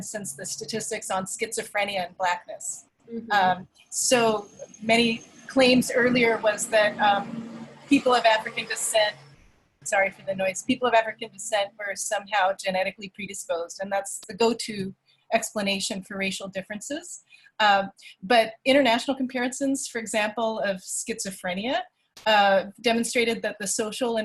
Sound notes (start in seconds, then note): 7.6 traffic noise in background